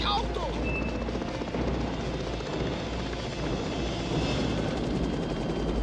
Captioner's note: yelling